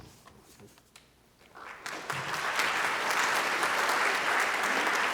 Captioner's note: applause